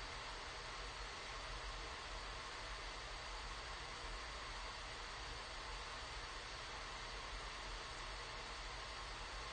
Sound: static noise

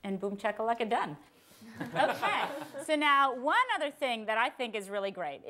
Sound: others Laughing

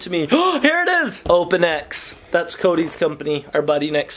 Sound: gasps

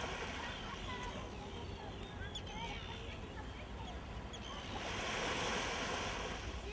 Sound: children's voices

